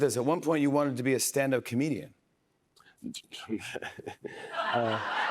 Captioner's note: laughs